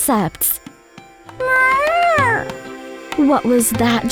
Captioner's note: Joy meows